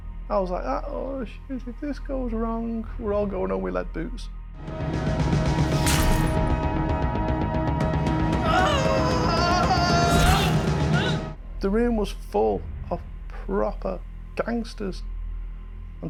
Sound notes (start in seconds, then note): 4.4 dramatic music; 9.4 metal shatters; 11.6 actor screaming painfully